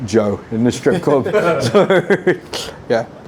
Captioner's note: laughter